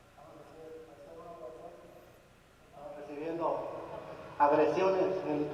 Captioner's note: man speaking foreign language